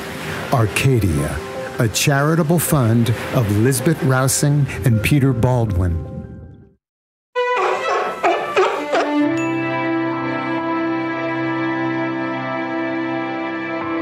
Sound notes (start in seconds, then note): 5.9 the Seal is Barking!